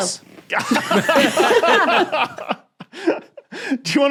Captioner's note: group laughs heartily